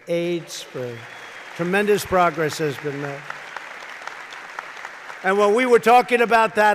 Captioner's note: applause